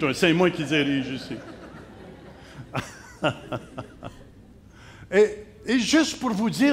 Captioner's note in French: rires